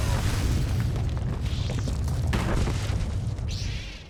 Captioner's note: explosion